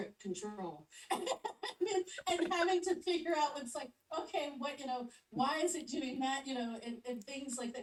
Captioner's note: laughs